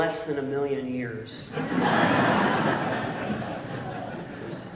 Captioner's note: laughter